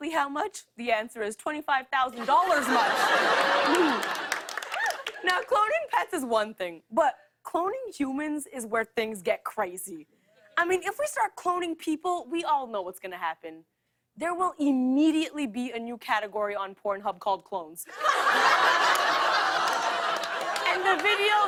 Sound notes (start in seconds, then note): 2.3 clears throat; 18.3 audience groans